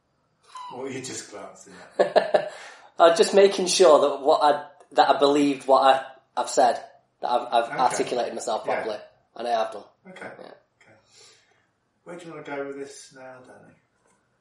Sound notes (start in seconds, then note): 0.6 laughs